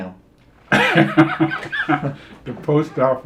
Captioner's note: laughing